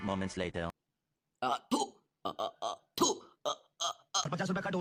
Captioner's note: spitting